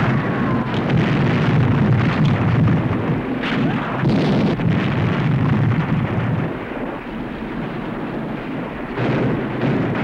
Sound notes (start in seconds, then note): 3.7 explosions